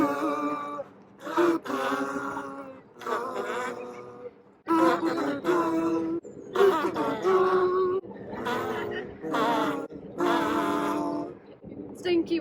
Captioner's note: cute Teletubby noise